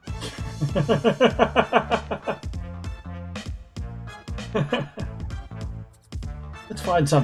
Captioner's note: laughs